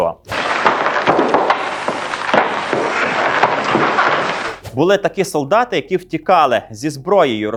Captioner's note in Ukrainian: оплески